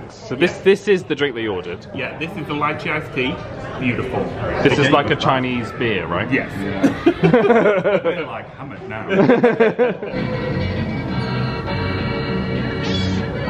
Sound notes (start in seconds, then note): 9.0 friends laugh; 10.0 bright polka music